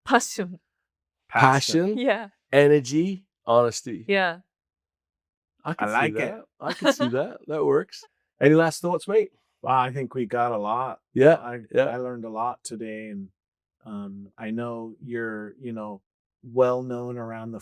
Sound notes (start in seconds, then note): 6.6 chuckles